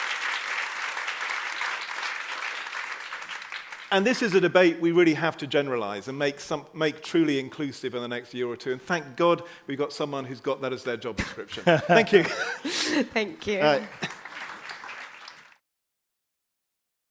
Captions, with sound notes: And this is a debate we really have to generalise and make truly inclusive in the next year or two. And thank god we've got someone who's got that as their job description. Thank you. Thank you. All right. [APPLAUSE]